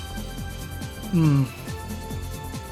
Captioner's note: hums contently